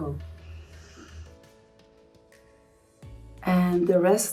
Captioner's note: gentle music; sniffing